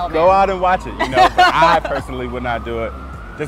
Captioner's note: laughing